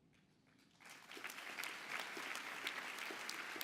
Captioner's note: applause